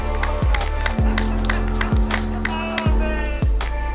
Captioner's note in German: Bootshorn, Applaus